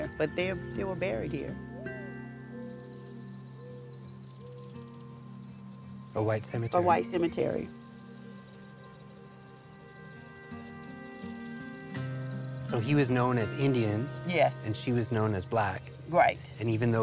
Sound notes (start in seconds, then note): 1.8 bird whistling; 1.8 calm music; 8.1 calm music